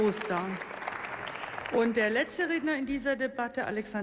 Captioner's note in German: Beifall